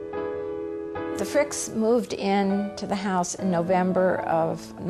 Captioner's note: voiceover